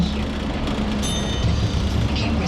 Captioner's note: bell dinging